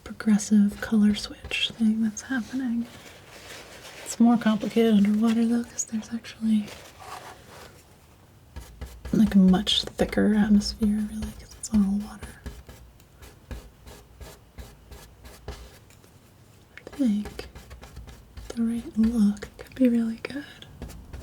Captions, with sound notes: progressive color switch thing that's happening it's more complicated underwater though cause there's actually like a much thicker atmosphere really cause it's all water [tapping] I think the look could be really good